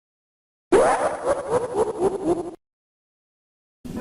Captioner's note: That God-Awful Kefka Laugh